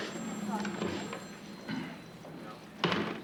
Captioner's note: clears throat